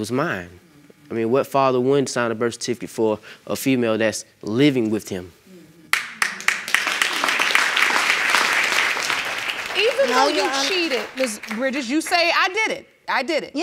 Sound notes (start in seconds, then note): 5.9 audience applauding